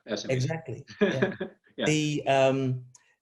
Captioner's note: laughs